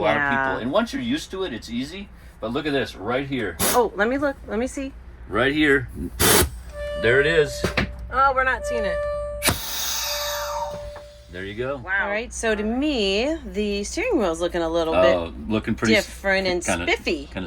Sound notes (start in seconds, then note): 3.6 air hissing; 6.1 air hissing; 6.6 horn ringing